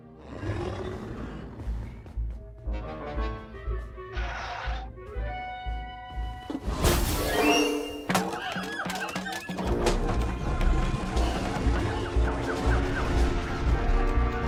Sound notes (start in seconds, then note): 0.0 Kaufmo growls; 2.2 sneaky music plays; 8.0 monkeys hooting, shrieking